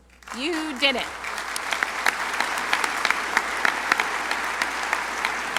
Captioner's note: crowd applauding